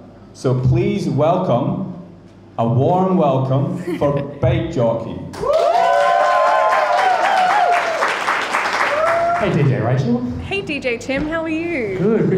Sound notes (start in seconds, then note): 5.3 crowd cheering; 5.4 crowd applauding